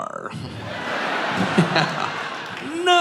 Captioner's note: audience laughing